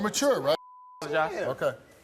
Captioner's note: beep